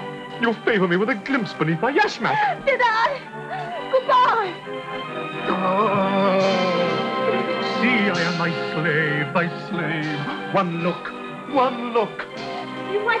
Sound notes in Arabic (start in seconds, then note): 5.2 أنين